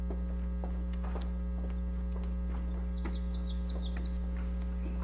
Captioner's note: footsteps approaching